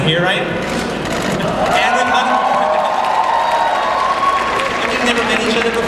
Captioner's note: audience applauding